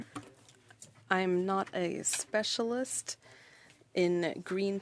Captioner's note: speaking French